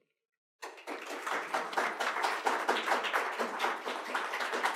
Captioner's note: applause